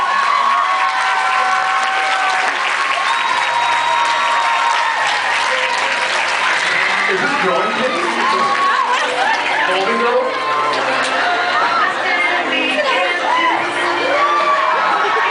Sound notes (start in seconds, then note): 0.1 audience screams, cheers, applauds; 8.3 audience screams, cheers, applauds; 13.1 screams, cheers